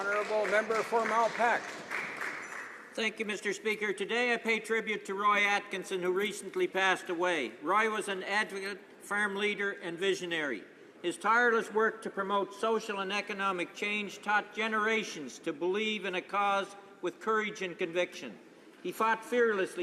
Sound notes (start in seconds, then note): 3.2 some Applause